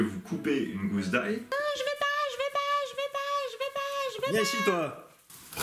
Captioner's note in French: Voix aigüe